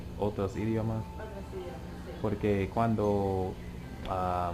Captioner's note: spanish